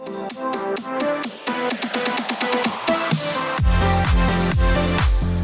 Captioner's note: clap